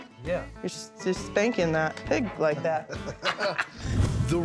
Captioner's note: laughs